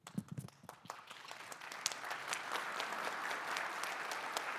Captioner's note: audience applauding